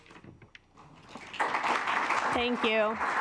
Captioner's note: assembly clapping